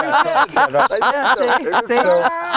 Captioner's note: person laughing